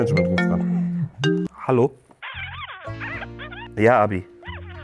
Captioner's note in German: Handyklingelton; Gemurmel, abwartende Klänge